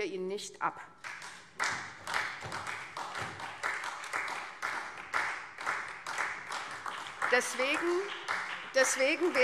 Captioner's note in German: Beifall SPD